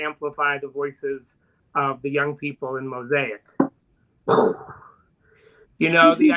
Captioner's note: vocalizes